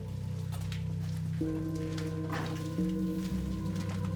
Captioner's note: footsteps